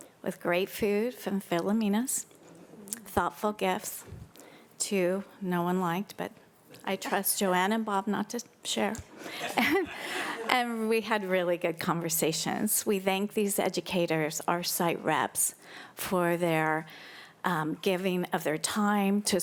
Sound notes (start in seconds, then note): 9.2 audience laughing